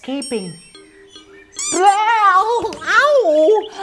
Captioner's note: mouse squeaks